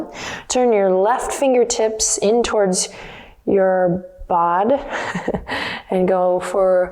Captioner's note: chuckles